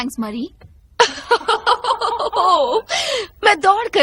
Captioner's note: laughing